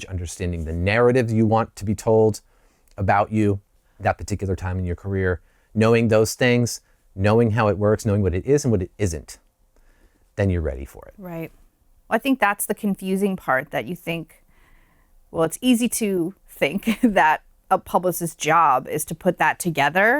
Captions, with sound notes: understanding the narrative that you want to be told about you, that particular time in your career, knowing those things, knowing how it works, knowing what it is and what it isn't, then you're ready for it. >> That's the confusing part. Well it's easy to think [LAUGHTER] that a publicist's job is to put that together,